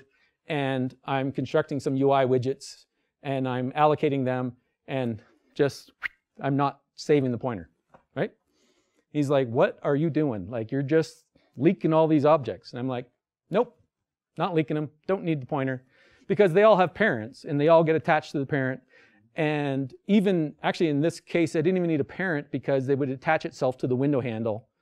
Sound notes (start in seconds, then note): 5.9 swish